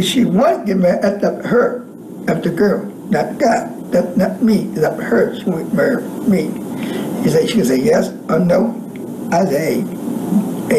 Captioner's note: speaking away from microphone